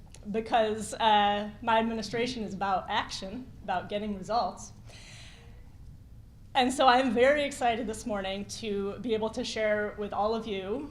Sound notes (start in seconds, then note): none